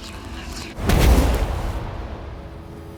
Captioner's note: poof